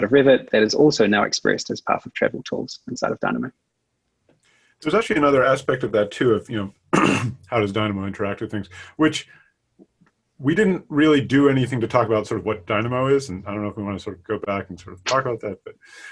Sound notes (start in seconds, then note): 6.9 clearing throat